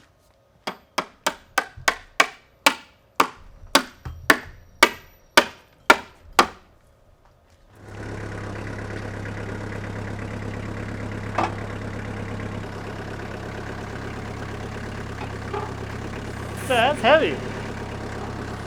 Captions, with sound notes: (hammer whacks) (forklift rumbles) Yeah, that's heavy.